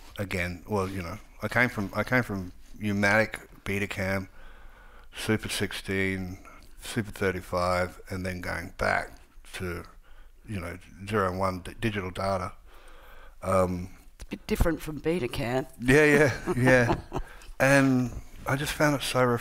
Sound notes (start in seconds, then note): 15.9 laughs